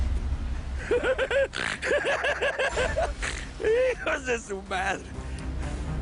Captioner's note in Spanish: Risas